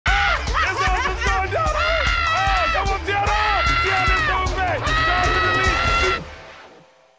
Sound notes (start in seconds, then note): 0.4 Teyonah laughing; 1.7 Teyonah screaming; 4.8 Teyonah screaming